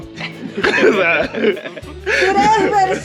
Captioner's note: laughs